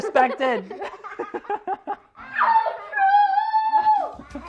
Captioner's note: children laughing